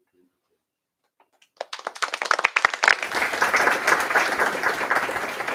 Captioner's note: applause